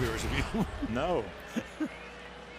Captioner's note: laughs